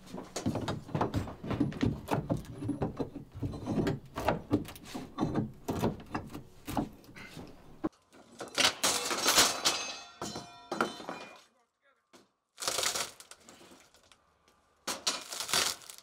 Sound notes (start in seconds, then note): 8.8 tools clunking; 12.5 roofing crunching